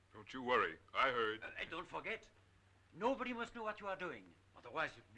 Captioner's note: none